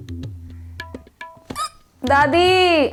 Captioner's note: hiccup